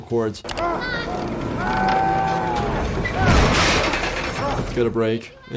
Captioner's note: patient yelling